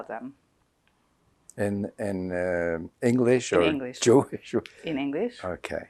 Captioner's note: laughing